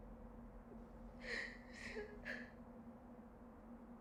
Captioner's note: crying